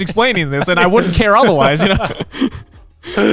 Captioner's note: laughs